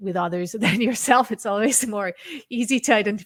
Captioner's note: chuckles